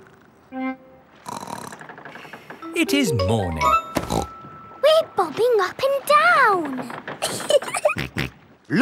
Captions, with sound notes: (SNORTS) It is morning. (SNORTS) We're bobbing up and down! -(GIGGLING) -(SNORTS)